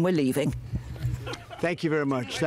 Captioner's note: laughter